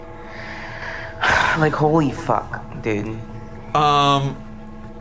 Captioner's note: sighs